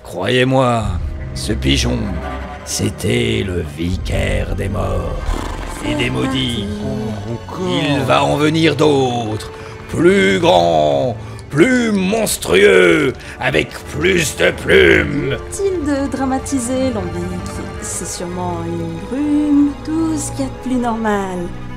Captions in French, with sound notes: - Croyez-moi, ce pigeon, c'était le vicaire des morts *soupire de Gatas* et des maudits ! - C'est reparti - C'est reparti - Oh, encore - Il va en venir d'autres, plus grand, plus monstrueux, avec plus de plumes ! - Inutile de dramatiser Lambik, c'est surement une brume, tout ce qu'il y a de plus normal,